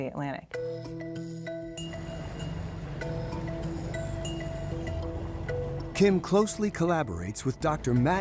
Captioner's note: playful music; boat engine roaring